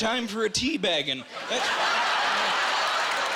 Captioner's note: laughing